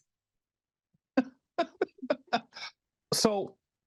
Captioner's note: chuckling